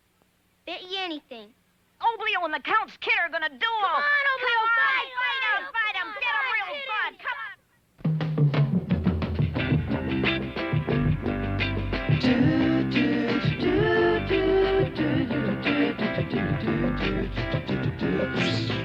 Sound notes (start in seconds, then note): 3.9 kids cheering Oblio; 8.3 upbeat music